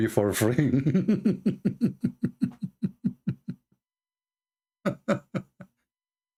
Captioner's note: Ketawa